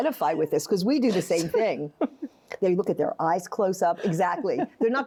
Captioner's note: laughs